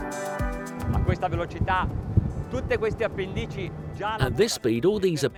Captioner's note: speaking foreign language